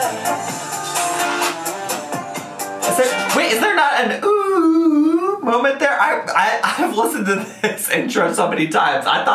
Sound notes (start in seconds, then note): 4.7 humming